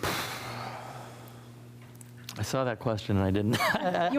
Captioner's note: sigh; laughs